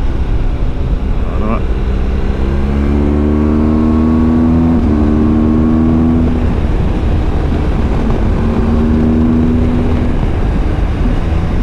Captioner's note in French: Moteur